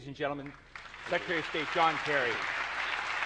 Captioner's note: applause